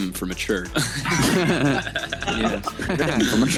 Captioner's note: laughter